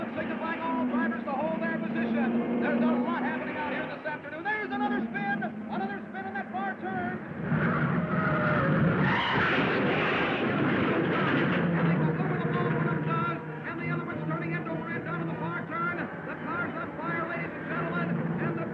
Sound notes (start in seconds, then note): 7.7 tires squealing; 9.8 cars crashing